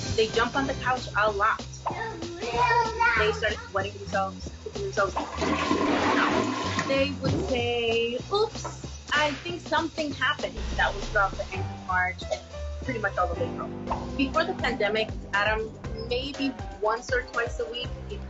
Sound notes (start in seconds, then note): 2.0 kids chatter; 5.1 toilet flushes